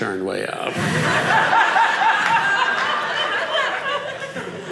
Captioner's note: audience laughing